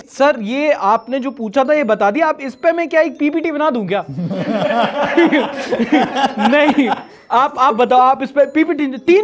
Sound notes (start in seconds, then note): 4.2 laughs